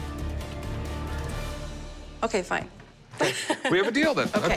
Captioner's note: laughs